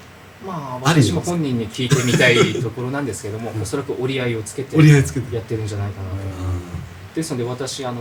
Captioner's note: laughs